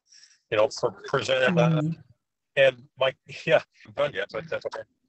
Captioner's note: man's voice distorting